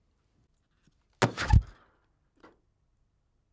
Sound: balloon popping

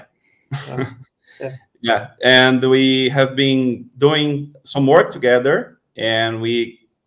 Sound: chuckles

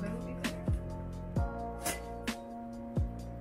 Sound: shinnnk

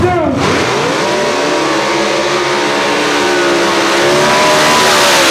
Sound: Blew By You Gasser burnout sound

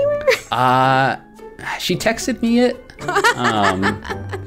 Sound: laughter

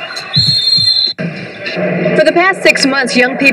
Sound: whistle blowing

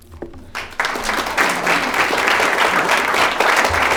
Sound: all applauding

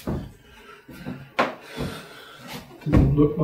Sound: heavy breathing

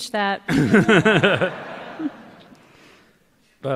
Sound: laughter

